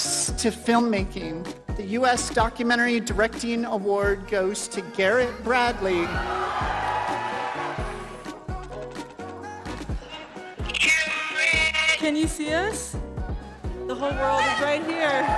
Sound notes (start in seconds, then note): 5.9 crowd cheering